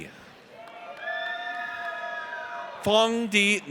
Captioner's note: audience cheers